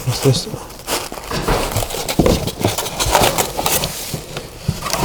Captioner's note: boxes scrapping